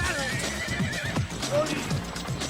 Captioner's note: horse whinnies